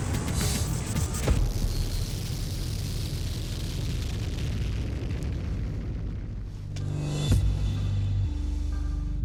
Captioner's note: blade impacts